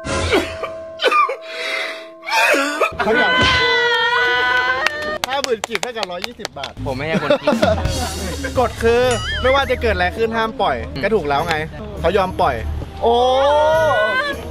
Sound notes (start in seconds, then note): 3.1 applauding; 7.1 laughs